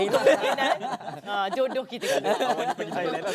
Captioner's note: laugh